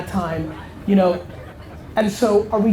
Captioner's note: audience laughter